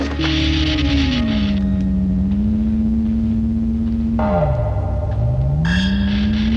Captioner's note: machine whirring; machine crackling; ominous music